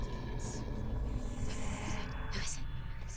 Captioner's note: whispering